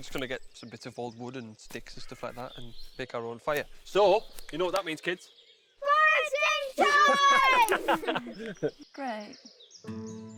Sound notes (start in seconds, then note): 6.7 all laughing